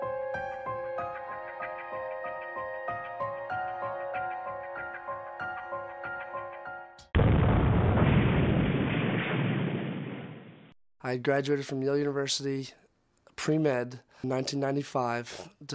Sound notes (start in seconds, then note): 7.1 explosion